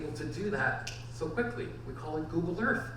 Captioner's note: clicks fingers